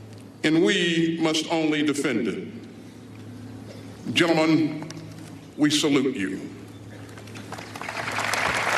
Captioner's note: applause